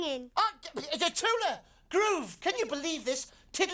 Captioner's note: stammering